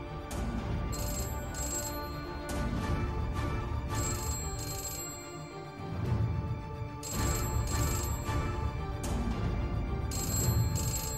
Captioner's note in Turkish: Telefon çalıyor